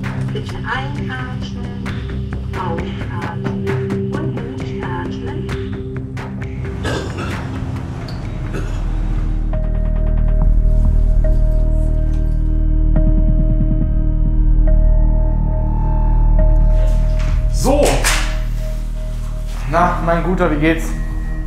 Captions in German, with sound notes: Bitte einatmen. Ausatmen. Und durchatmen. (Husten) (Abwartende Musik) (Beklemmende Musik) So. Na, mein Guter, wie geht's?